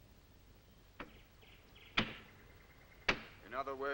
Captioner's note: hammer banging